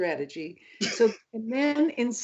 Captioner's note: laughs